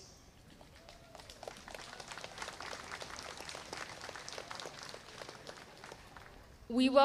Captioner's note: applause